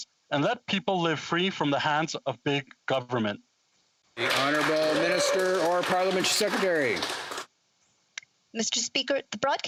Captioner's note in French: voix de l'interprète